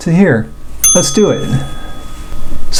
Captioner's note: bell chimes